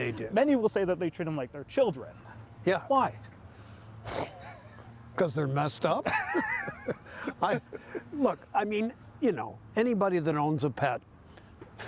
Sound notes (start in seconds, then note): 3.6 scoffing; 6.0 both laughing